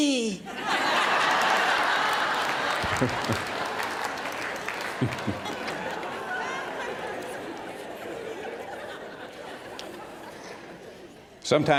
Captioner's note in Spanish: risas